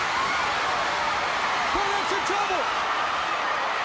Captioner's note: crowd cheering